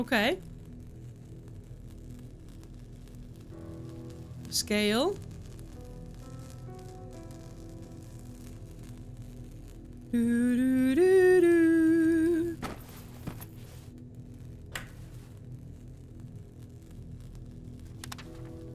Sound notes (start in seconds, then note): 10.0 humming